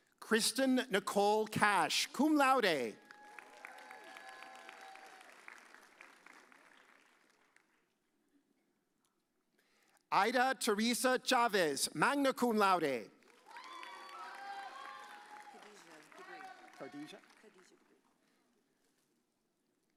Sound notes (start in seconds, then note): 3.0 audience cheers; 13.4 audience cheers